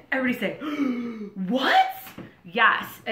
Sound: gasping

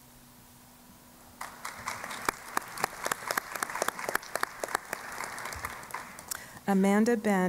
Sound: applause

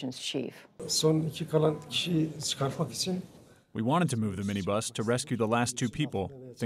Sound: through translator

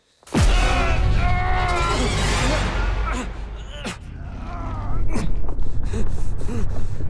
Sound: loud punching; Cam grunting and yelling; gasping

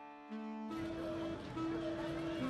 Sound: indistinct chatter

